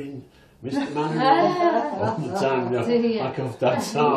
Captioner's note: all laughing